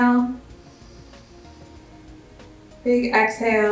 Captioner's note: inhales